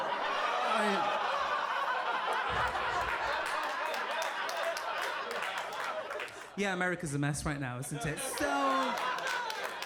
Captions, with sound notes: (audience laughing) (audience clapping) Yeah, America's a mess right now, isn't it, so.